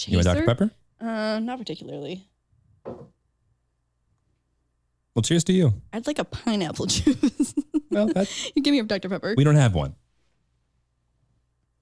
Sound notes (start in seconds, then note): 6.8 chuckles